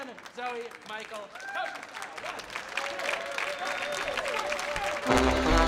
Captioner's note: audience applauding; audience cheering